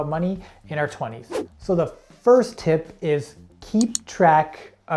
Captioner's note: air whooshing